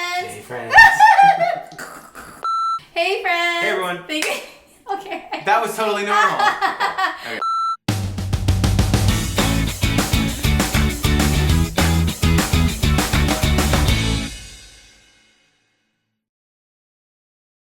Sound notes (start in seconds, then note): 0.7 laughing; 2.4 beep; 6.0 laughing; 7.4 beep; 8.0 upbeat music